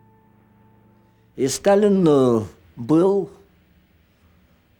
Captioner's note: speaking russian